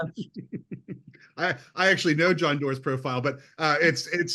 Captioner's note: chuckles